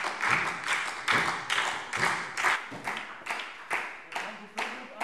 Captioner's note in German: Beifall SPD